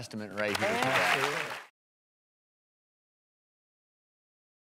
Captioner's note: applause